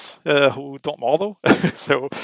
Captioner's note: laughs